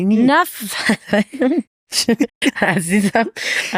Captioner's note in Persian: خنده